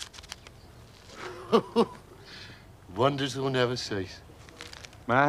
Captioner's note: laughs